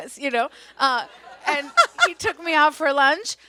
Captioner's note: audience laughs